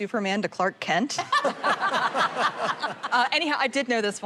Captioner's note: laughter